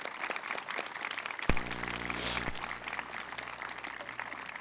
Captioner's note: applause